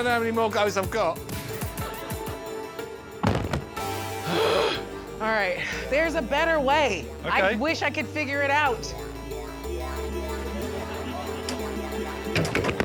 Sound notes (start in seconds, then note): 2.3 upbeat music; 3.2 iron thudding; 4.2 groaning; 9.5 upbeat music